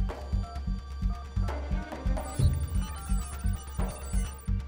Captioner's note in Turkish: Telefon arama sesi